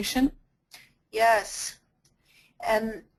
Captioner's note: voiceover